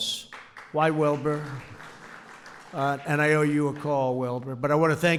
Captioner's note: applause